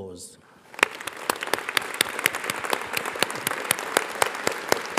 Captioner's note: audience applauds